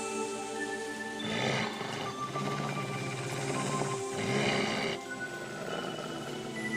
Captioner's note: lowkey injured angry alien growling